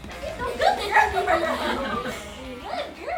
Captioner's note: laughing